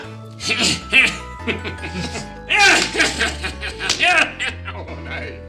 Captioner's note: evil laughter